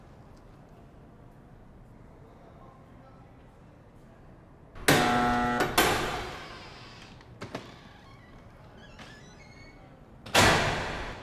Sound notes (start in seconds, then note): 4.8 buzzer